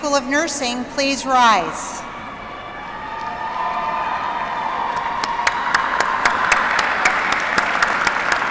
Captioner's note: applause